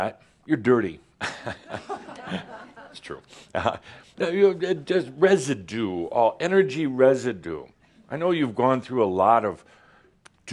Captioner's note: some chuckles